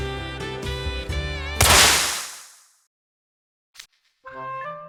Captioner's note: 𝘚𝘱𝘭𝘢𝘴𝘩